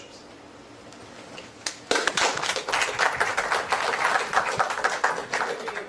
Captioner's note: applause